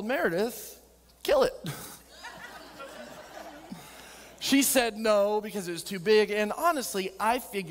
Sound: audience laughing

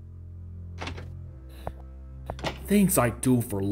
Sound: door Opens and Closes

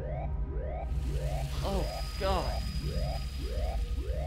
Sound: smoke hissing; alarm blaring

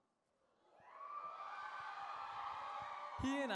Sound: cheering

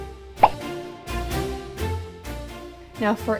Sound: pop

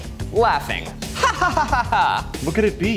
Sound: laughs

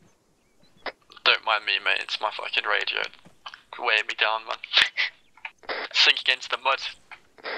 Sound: chuckles

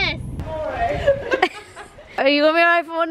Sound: laughs

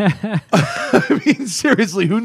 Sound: laughter

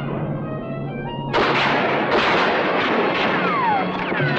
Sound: guns firing

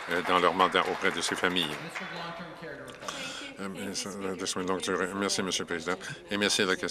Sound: some Applause

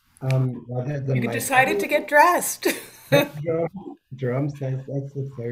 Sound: laughs

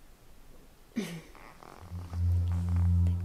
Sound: uneasy laugh

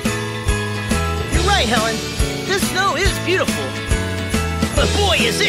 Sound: speaking

